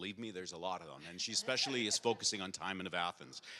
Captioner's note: audience laughs